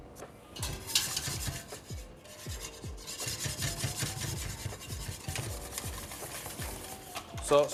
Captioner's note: whisking